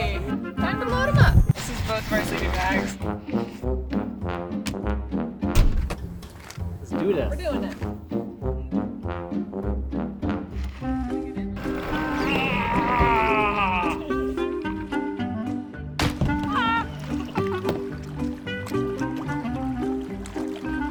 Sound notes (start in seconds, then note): 12.4 hard grunts; 16.0 quick crack; 17.9 trickling water